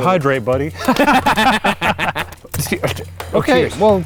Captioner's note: laughing